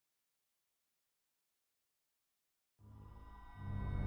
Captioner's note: long intentional silence